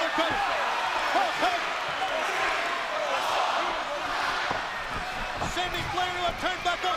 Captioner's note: crowd cheering